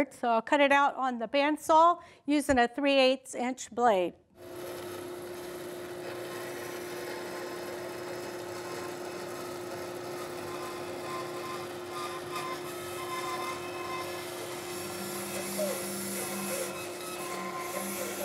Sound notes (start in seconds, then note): 4.4 band saw machine sound